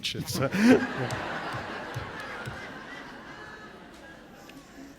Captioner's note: laughter